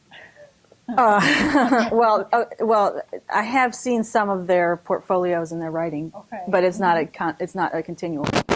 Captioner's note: laughs